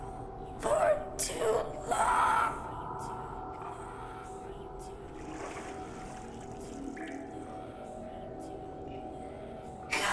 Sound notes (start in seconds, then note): 5.0 water sloshing; 7.8 gentle eerie music